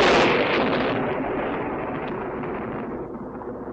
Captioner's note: thunder crashing